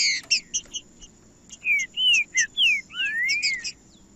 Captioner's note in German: trinca ferro cantando